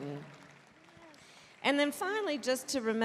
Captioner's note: applause